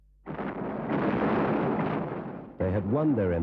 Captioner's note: loud bangs